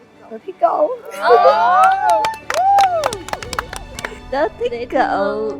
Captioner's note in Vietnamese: vỗ tay